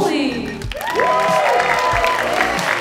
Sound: audience cheering

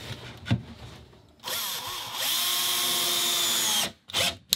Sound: drill buzzing

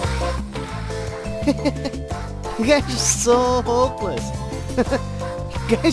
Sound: laughs

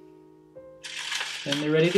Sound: paper rustling

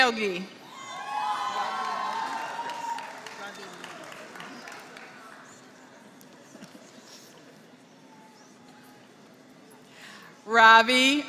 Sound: applause

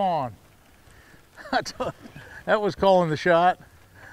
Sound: chuckling

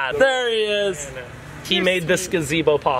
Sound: none

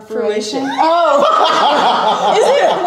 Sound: laughing

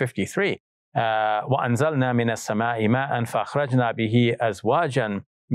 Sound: speaks in Arabic

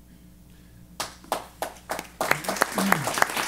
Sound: applause

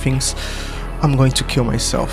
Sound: sigh

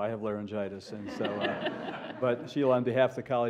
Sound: laughter

